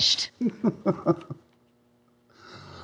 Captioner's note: snickering